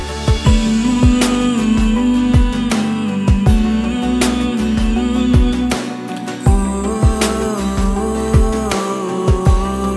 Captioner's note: Humming